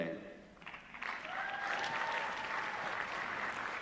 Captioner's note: applause